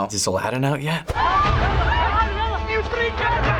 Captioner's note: people screaming